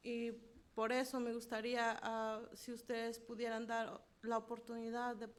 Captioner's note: speaking in foreign language